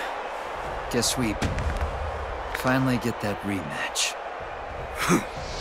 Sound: neck cracks

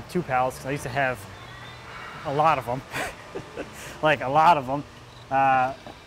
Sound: laughs

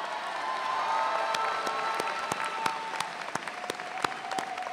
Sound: audience cheering

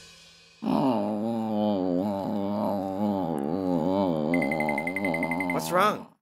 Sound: groaning

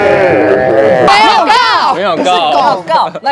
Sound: in Taiwanese

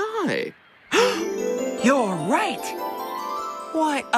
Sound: gasps

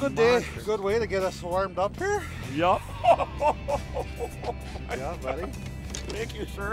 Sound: laughing

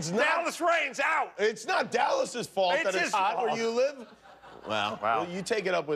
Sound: laughter

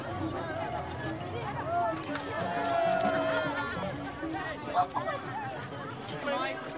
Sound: crowd cheers; soft music

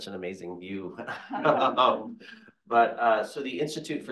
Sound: speakers chuckles

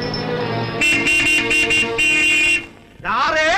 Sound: horn Honking

